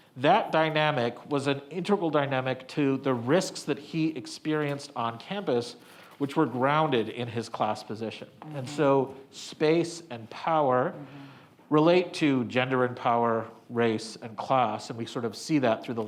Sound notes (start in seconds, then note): none